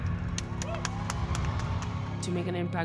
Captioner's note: cheering and applause